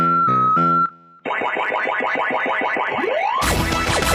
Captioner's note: pacman chomping; upbeat techno music